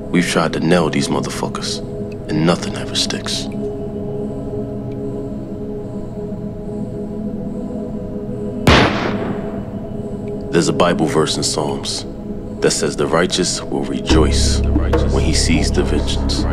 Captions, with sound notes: We've tried to nail these motherfuckers and nothing ever sticks. (somber music) (gunshot) There's a Bible verse in Psalms that says, "The righteous will rejoice when he sees the vengeance.